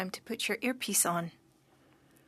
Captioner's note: speaking French